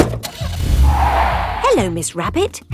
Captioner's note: car starting; tires screeching